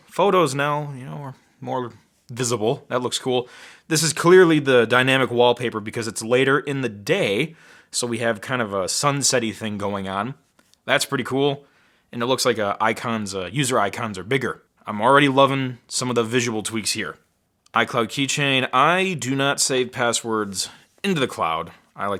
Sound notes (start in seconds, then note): none